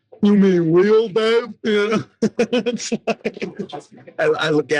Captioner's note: laughing